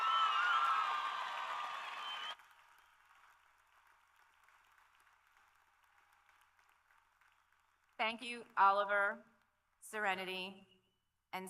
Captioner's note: cheers and Applause